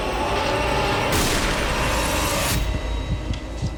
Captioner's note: gunshot